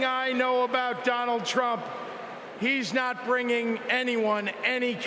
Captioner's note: cheering